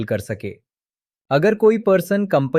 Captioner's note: thoughtful